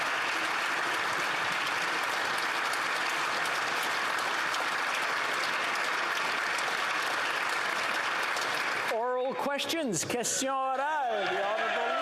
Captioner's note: applause